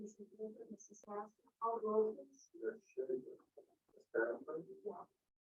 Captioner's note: group muffled chattering